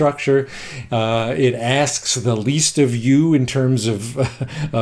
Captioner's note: chuckles